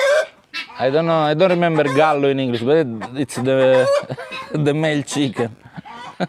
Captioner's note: rooster